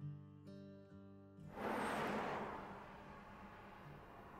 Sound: car engine revs

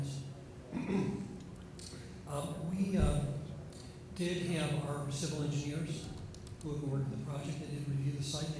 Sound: off microphone

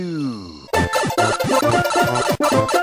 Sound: pipe sounds

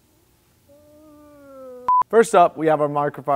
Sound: moans

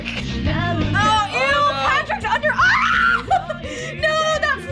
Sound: shrieking and giggling

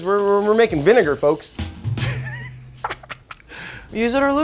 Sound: laughs

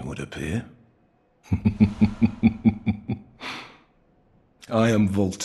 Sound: chuckles

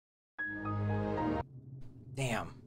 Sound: windows startup sound

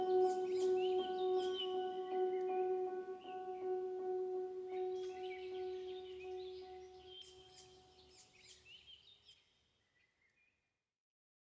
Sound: birds chirping; instrumental fades out

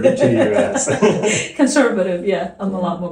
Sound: laughs

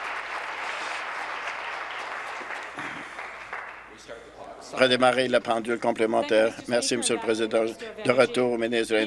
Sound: applause

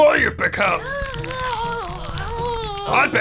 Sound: grown up rasp

